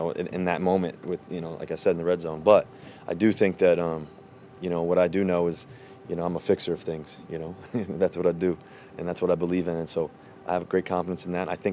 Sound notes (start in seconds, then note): 7.6 chuckles